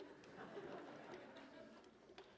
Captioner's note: laughter